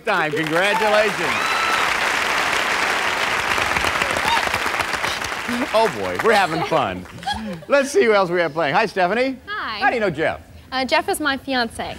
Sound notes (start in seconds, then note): 0.0 applause; 6.0 laughs